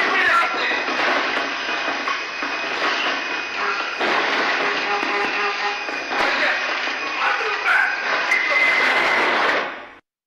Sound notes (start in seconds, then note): 3.6 stall alarm; 8.3 sound of unknown alarm; 8.9 sound of wing strike